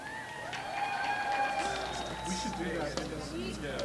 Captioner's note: applause